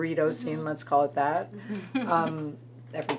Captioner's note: laughs